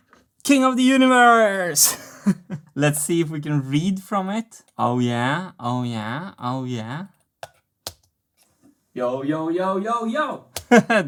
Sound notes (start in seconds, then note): 1.8 chuckles; 7.8 mouse click; 7.8 mouse clicks; 10.6 laughs